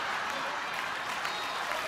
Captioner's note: laughing